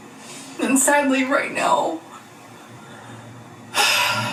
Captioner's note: sighs